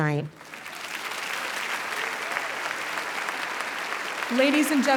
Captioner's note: audience applauding and cheering